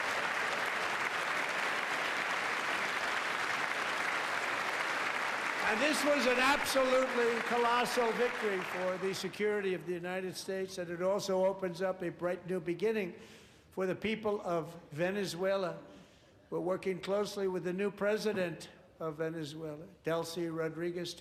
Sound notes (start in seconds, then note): 3.5 applause